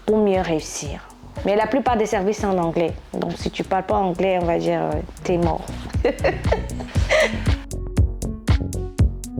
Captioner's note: laughs